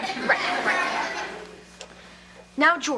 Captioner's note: audience laughs